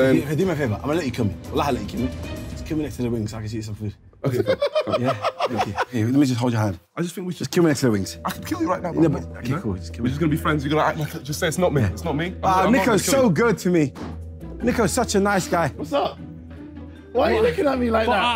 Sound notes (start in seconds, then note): 4.3 laughing